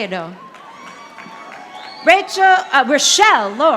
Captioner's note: audience applauding